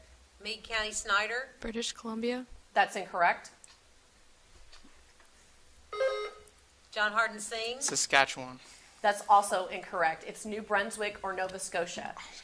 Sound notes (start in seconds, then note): 5.9 buzzer sounding